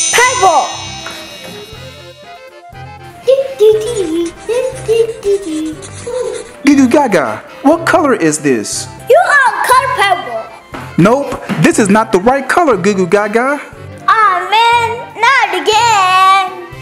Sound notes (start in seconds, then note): 0.0 magic wand; 4.1 coloring scratching